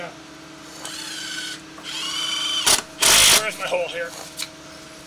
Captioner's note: machine revving